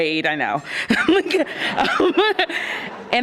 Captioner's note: all laughing